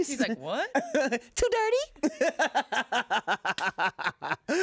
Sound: laughs

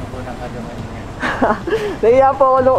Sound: laughs

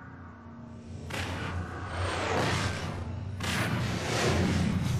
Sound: dramatic sounds; digitized landslide sounds

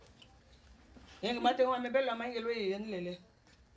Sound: speaking spanish

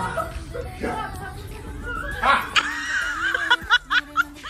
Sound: cackling

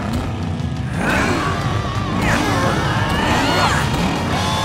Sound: grunting

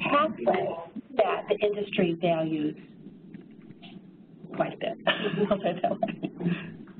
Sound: laughs

